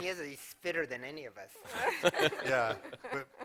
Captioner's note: laughter